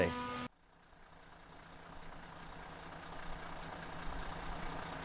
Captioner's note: engine running